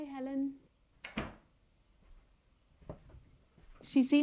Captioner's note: door closes